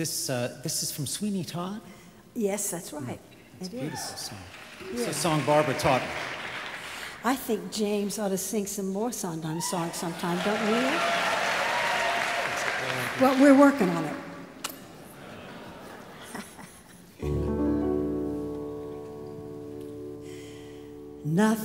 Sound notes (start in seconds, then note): 11.7 audience applauds